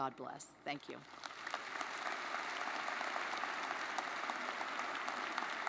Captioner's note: crowd applauding